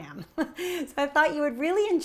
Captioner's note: giggling